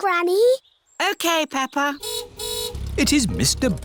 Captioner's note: car horn honks